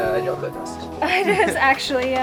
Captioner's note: laughing